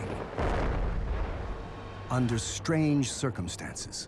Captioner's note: explosion